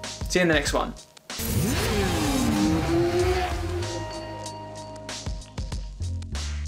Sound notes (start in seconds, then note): 0.7 mellow music; 1.3 engine revving